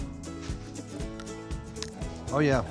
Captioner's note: crunch